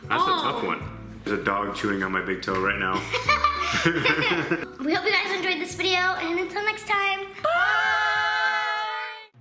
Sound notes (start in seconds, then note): 3.1 laughing